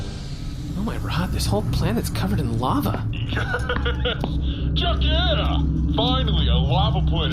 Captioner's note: transition music; laughing